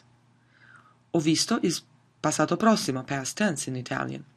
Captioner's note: speaks in foreign language